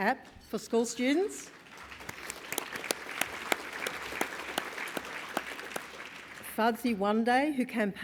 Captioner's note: applause